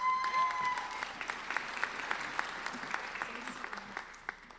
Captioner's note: applauding